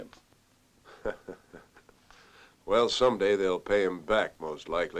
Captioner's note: chuckles